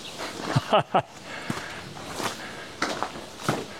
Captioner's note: laughs